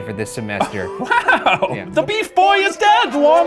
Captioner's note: laughs